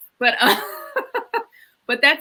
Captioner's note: laughs